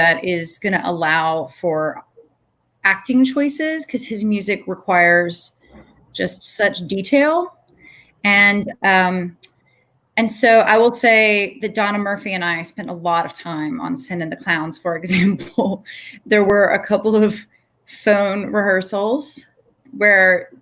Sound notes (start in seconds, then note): 15.8 laughs